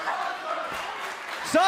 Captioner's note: fans chanting